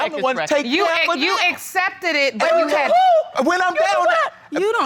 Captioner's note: exclaims